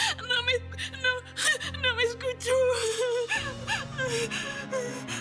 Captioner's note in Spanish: Sollozos